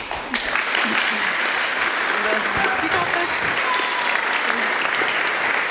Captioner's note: applause